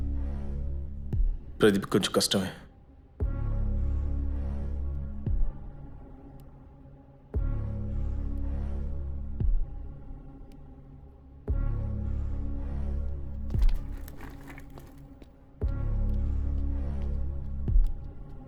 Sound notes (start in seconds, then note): 13.5 chair scrapes; 15.7 foot steps depart